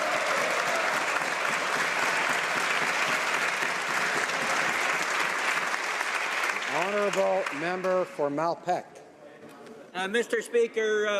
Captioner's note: some Applause